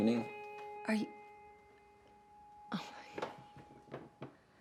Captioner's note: sighs